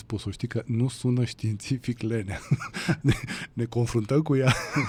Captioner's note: laughter